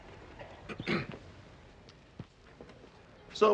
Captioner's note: people chattering